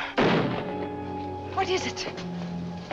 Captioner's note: gunshot